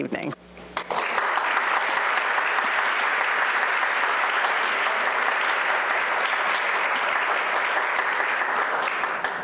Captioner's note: applause